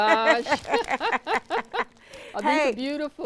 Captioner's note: both chuckling